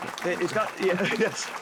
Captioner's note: audience Applauding